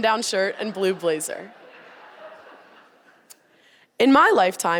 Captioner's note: audience laughing